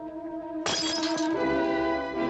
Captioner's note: smash